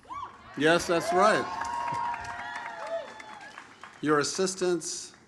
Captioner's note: audience cheers